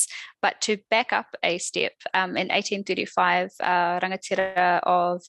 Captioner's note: non-english speech